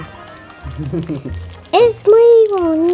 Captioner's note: giggles